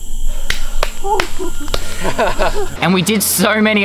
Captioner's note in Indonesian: laugh